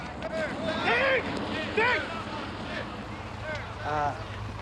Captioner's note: shouting